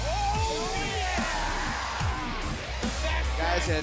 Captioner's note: crowd cheering